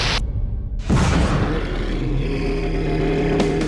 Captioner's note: animal growls